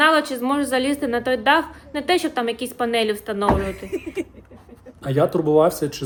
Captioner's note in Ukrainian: сміх